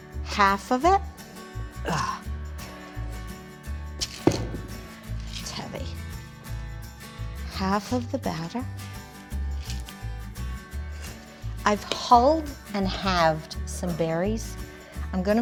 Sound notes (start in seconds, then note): 0.0 cheerful acoustic music; 1.8 sighs; 2.5 cheerful acoustic music; 9.3 cheerful acoustic music